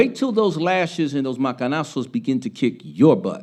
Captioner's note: speaking Spanish